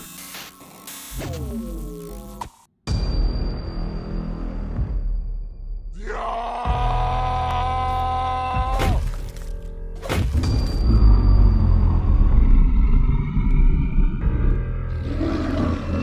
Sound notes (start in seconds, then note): 13.0 growl